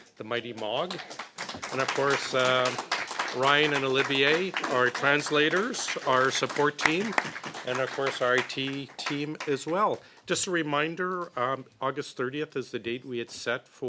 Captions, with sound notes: want to say thanks to the wonderful clerk, the mighty MOG. [ Applause ] And Ryan and Olivier, the translators, our support team. And of course our I.T. team as well.